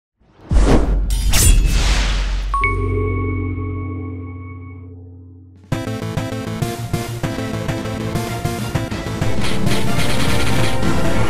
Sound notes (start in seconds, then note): 0.3 swoosh sound; 0.5 sword slash; 2.4 intro Jingle